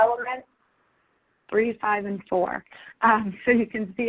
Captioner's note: voiceover